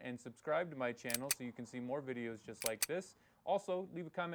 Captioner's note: gun cocks